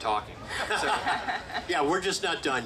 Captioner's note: group laughing